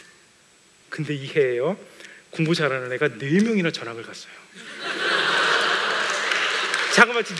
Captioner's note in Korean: 웃음